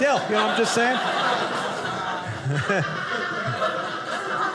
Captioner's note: audience laughing